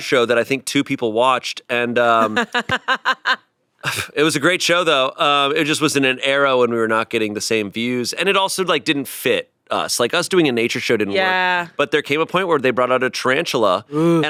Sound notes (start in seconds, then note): 2.0 laughs